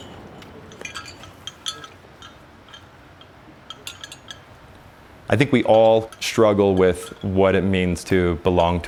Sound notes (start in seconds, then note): 3.6 bells jingling